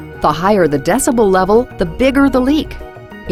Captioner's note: voiceover